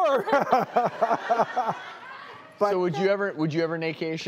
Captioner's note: laughing